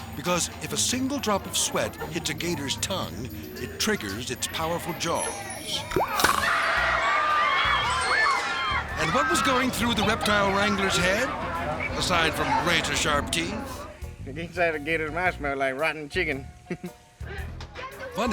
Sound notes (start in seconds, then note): 6.0 jaws snapping; 6.0 people shouting; 16.7 chuckles